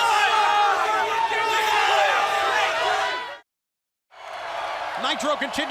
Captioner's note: crowd chatter